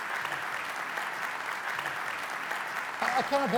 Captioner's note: applause